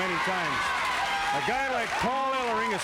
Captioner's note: crowd cheering